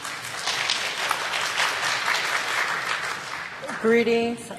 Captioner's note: applause